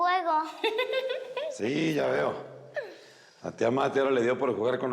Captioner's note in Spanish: Risas